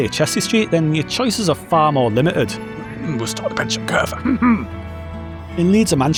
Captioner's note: cough; cough cough